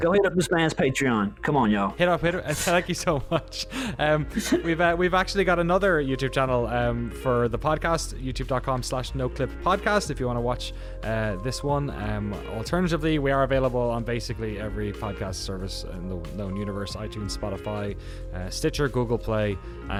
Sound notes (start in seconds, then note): 4.3 laughs